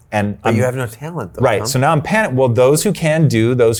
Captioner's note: stammers